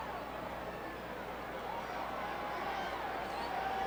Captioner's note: crowd chattering